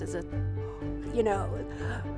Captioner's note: gasp